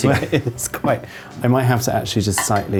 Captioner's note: laughs